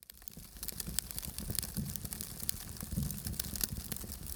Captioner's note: fire crackling